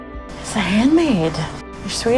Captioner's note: voiceover